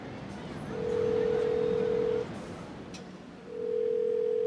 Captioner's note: phone ringing